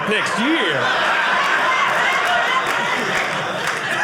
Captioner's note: audience laughing